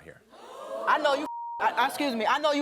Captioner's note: audience reacting; beep